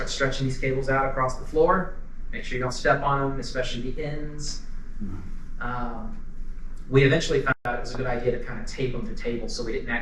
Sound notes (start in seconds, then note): none